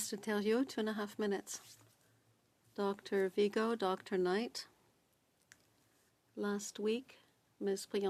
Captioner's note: speaking French